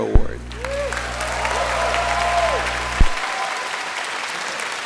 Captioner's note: applause